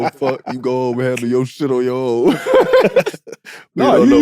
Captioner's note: laughs